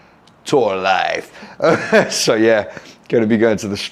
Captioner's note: laughs